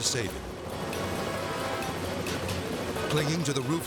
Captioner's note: propellers humming